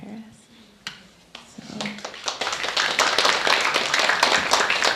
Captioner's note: applauding